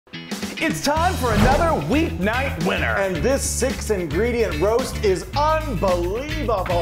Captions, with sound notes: (upbeat pop rock music) - It's time (air whooshing) for another weeknight winner. - And this six ingredient roast is unbelievable.